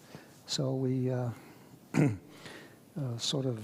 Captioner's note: coughs